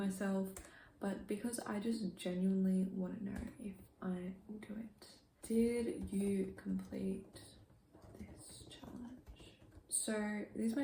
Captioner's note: typing